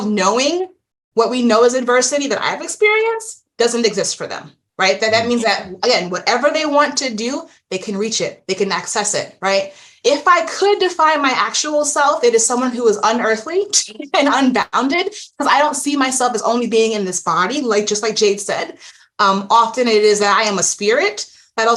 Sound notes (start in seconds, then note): 13.8 chuckles